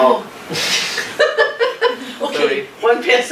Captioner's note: laughing